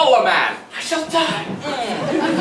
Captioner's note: whispering